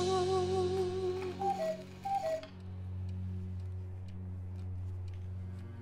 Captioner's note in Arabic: رنين ساعة الوقواق; موسيقى درامية ناعمة